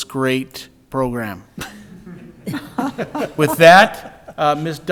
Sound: people laughing

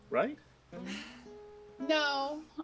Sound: sigh

